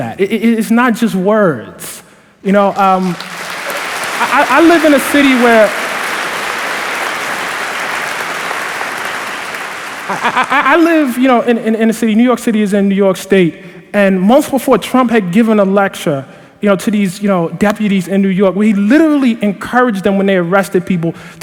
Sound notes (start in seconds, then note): 2.7 applause